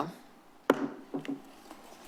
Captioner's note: gavel tap